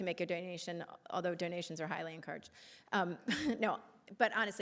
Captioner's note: laughing